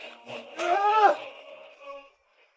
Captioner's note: shouting